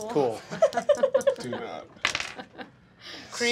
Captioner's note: dice clacking